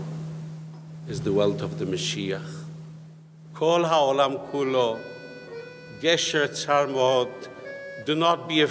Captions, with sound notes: Is the world of the (speaks in foreign language)